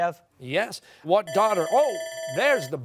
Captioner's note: bell ringing